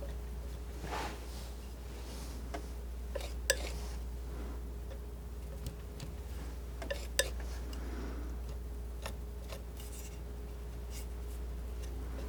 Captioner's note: scratching